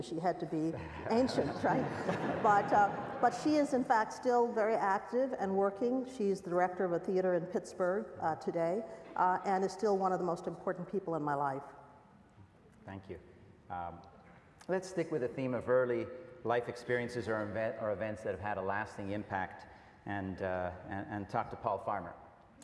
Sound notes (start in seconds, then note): 0.7 audience laughs